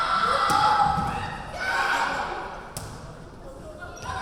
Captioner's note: yelling